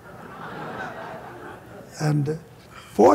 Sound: laughter

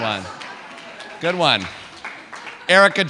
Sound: audience laughing

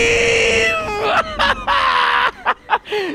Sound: laughing

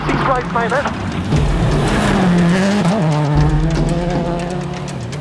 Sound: engine roaring

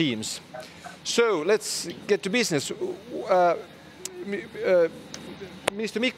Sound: speech stuttering

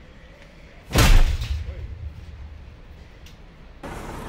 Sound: exaggerated cycle drop noise

